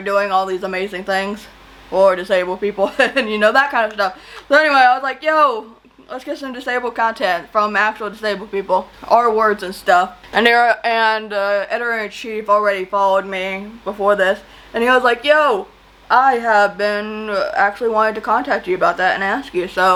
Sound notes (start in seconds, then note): 2.8 chuckles